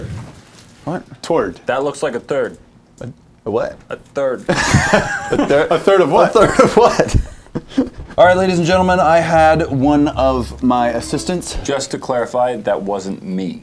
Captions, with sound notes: Turd that looks like a turd. A what? A third. A third of what? [laughing] Alright, ladies and gentlemen. I had one of my assistants just to clarify. That wasn't me